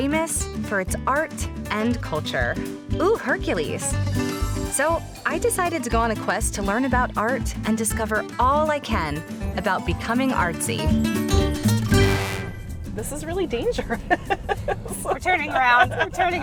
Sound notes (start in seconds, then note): 13.7 laughter